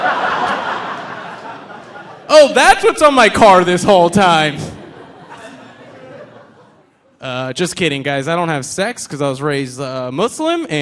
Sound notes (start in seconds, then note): 0.0 audience laughing